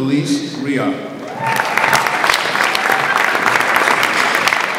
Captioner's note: audience applauds